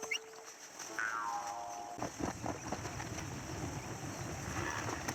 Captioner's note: horse coming accelerating